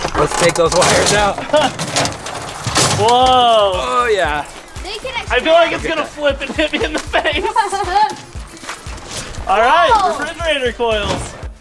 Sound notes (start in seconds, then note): 7.7 laughs